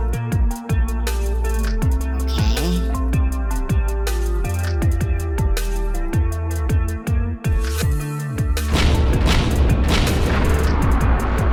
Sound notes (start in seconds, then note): 8.7 tower exploding